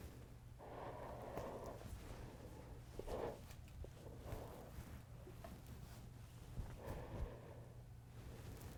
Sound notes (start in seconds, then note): 0.6 Clownface breathing heavily